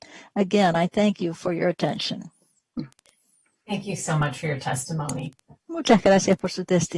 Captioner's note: speaking spanish